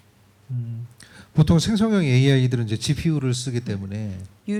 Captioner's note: speaking korean